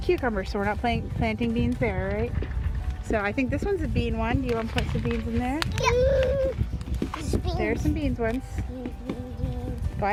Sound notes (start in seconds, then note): 6.8 baby gurgles